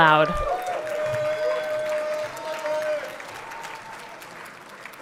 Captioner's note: everyone cheering